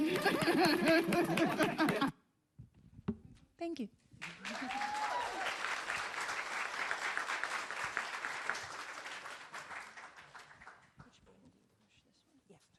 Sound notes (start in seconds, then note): 2.7 laughs; 4.2 applause